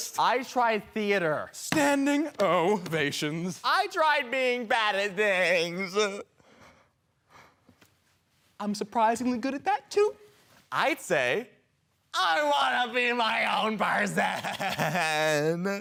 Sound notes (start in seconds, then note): 6.3 heavy breathing